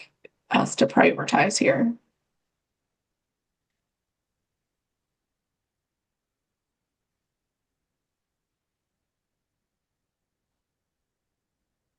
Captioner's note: pause